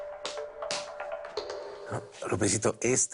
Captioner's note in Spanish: Manotazos